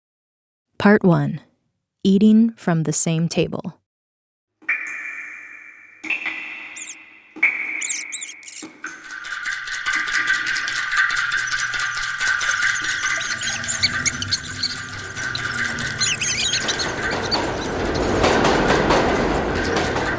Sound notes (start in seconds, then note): 5.0 soundbite of subway ambience and rats squeaking